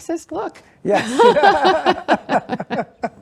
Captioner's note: laughing